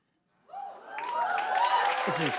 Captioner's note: cheers and applause